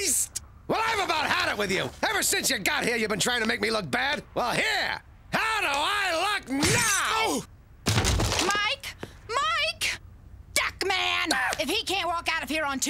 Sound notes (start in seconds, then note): 7.2 groaning